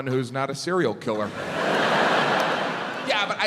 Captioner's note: audience laughs